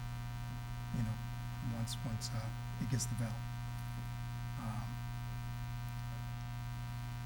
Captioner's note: faintly speaking